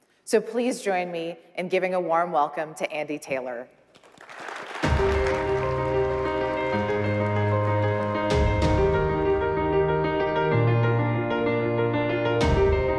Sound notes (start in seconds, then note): 3.9 crowd applauding; 4.8 dramatic music